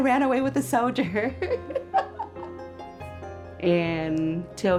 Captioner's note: laughing